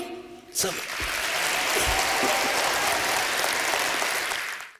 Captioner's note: cheering and applause